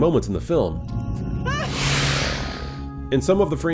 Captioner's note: Xenomorph hisses